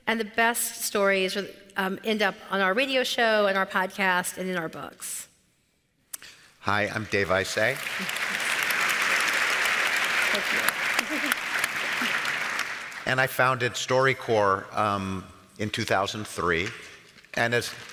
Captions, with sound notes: and the best stories end up on our radio show and our podcasts and in our books. - Hi, I'm Dave Isay. (audience applauds) And I founded StoryCorps in 2003, and as, thanks.